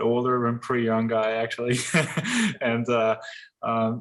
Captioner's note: laughs